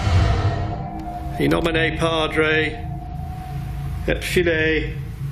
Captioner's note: speaking in foreign language